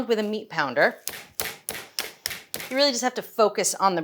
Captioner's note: meat pounder banging